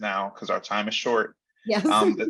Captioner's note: laughing